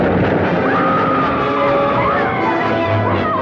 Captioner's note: women scream